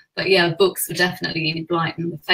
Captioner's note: none